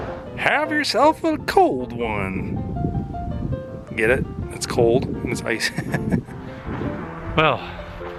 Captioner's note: laughter